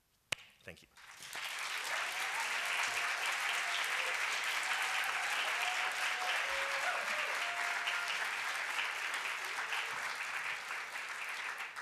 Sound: applause

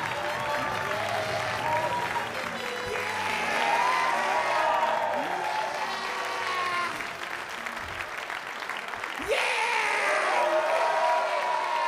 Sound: cheers and applause

